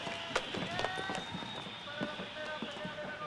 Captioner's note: whistling, shouting and man speaking Spanish on TV